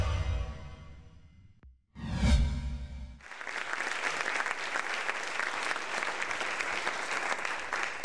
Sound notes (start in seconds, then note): 3.2 audience applauding